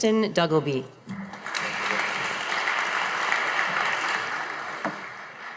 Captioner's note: audience applauding